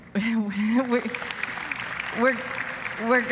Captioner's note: applause